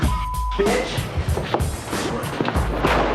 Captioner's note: banging on door